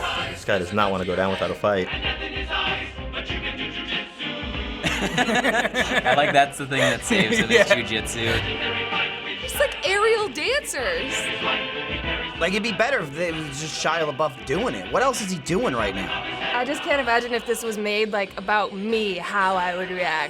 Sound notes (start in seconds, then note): 4.8 both laughing